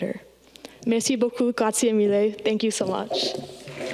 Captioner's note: speaking in foreign language